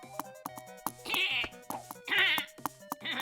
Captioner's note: angry grumbling